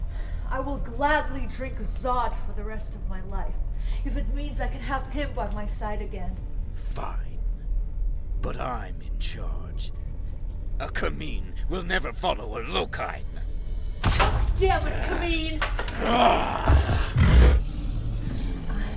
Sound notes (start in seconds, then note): 15.6 bone clatters; 15.8 Brocheet growls; 15.9 Dweller snarls